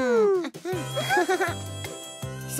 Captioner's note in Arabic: صوت ضحك